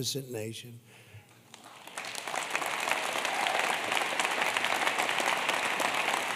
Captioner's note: applause